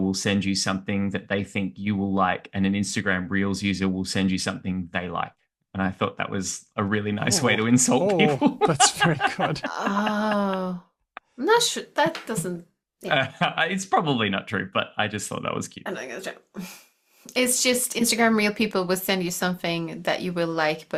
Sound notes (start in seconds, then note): 7.2 laughs; 9.8 chuckles